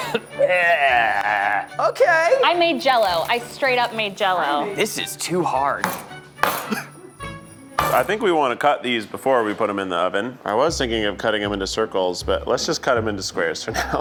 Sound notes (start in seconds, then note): 6.0 marshmallow thwacks